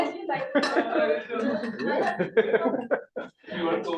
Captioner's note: laughter